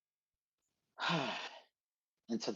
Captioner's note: heavy sigh